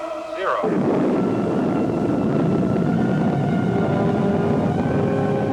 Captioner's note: rockets rumbling